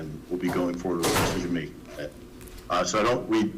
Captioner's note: door slamming